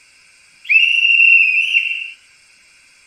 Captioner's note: conductor whistle